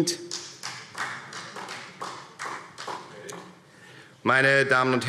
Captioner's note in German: Beifall Freie Demokraten